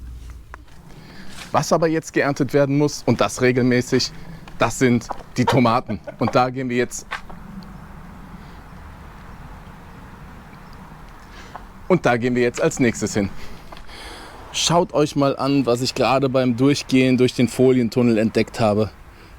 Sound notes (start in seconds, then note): 5.3 confused